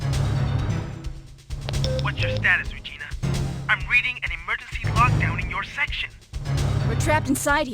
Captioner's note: radio beeping